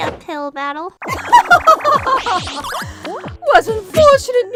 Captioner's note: haughty laughter